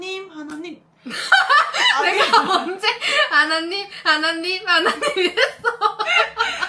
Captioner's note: laughter